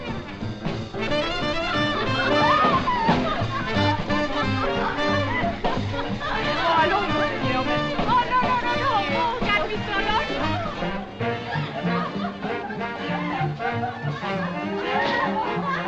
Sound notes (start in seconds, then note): 2.5 laughing; 7.2 speaking French; 11.4 jazz On Jukebox